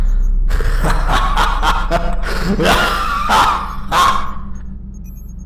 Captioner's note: laughter